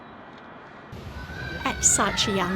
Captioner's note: kids shouting